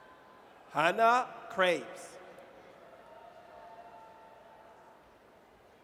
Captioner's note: audience cheers